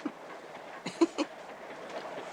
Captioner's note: howard chuckling